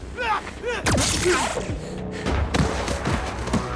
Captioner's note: groaning